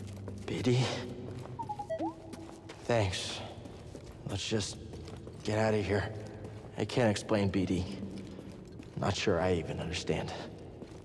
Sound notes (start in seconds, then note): 1.6 bee-bee-boo-woop